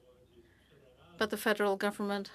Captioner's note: speaking French